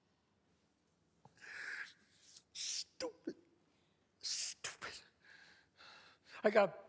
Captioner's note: sighs